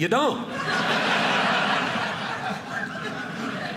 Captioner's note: audience laughing